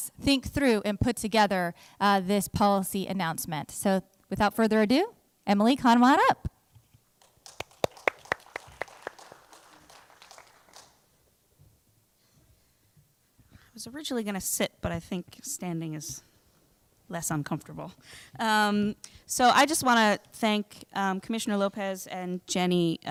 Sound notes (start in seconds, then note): 11.9 applause